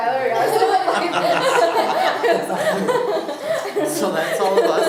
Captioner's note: laughing